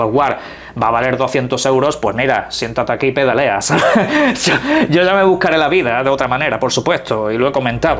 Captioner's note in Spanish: risas